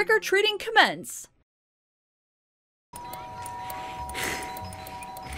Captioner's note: A million doorbell rings